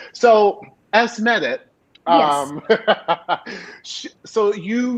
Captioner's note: laughing